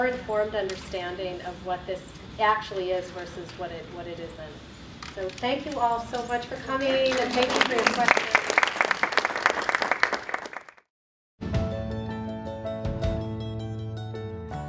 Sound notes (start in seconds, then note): 6.7 applause